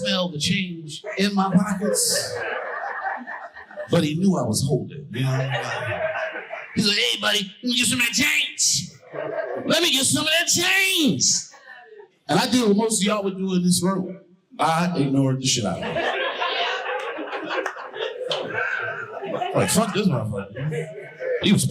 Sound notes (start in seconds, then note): 15.7 audience laughing